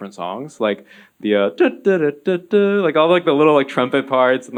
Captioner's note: hums